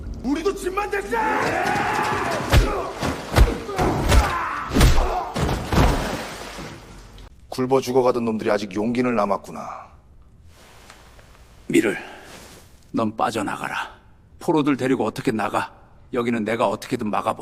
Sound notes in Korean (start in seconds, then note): 1.0 비명; 3.6 신음